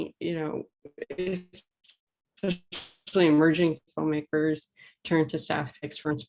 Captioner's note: distorted audio